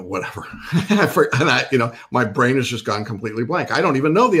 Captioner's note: chuckles